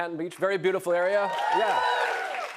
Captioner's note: cheers and applause